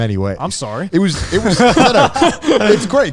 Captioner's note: laughs